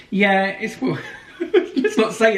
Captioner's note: chuckles